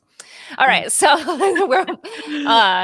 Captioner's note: laughs